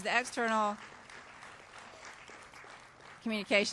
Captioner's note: applause